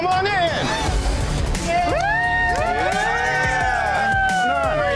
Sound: patrons cheering

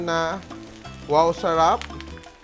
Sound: sizzle

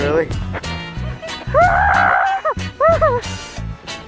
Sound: screams

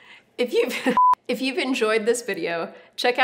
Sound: laughter

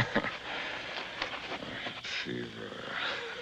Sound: chuckles

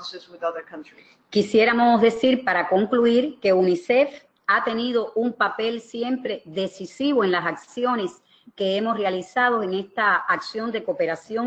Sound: speaking another language

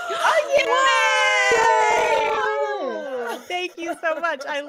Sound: people cheering

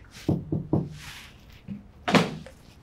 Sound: knock

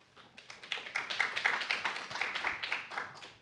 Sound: applause

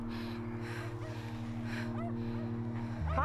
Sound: dog barking

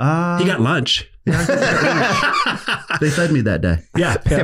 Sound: laughs

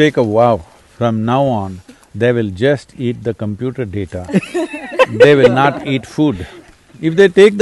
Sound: laughter

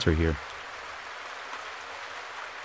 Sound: rain falling

